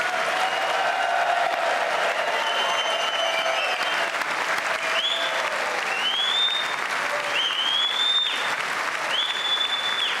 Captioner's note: applause